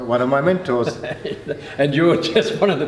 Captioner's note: laughing